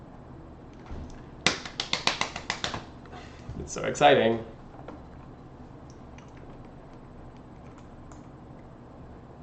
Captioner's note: claps